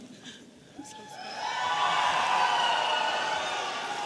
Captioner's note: audience cheering